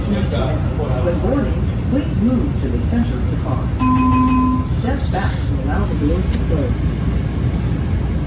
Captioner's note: chime